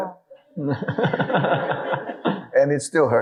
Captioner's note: audience laughing